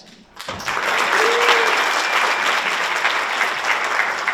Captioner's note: audience applauds